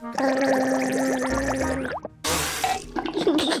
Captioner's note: gargles